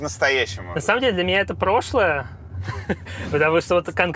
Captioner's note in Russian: смеётся